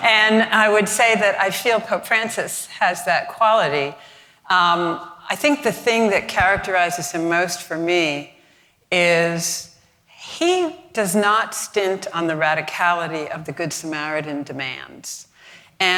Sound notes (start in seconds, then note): none